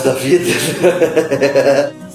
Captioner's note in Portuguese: risos